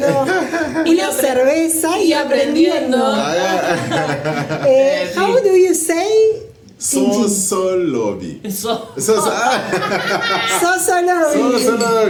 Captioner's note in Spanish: risas